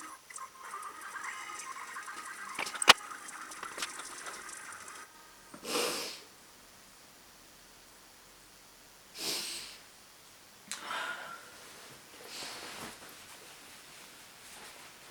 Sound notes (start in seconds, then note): 5.6 sniffles to stave off tears